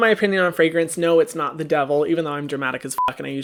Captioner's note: beep